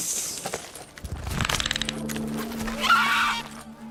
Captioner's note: dragon screeches